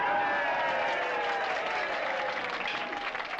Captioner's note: all cheering